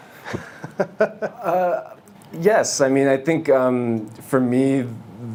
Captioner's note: laughs